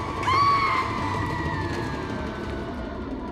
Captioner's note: screams echoing